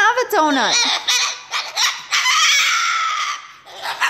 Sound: bird squawking

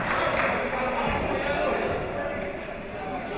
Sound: shouting

